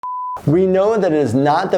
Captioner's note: beeping